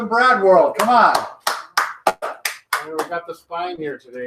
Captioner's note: clapping